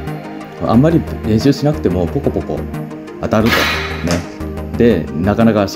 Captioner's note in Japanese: ポコポコ